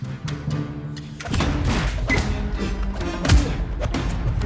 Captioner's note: blows striking; dramatic music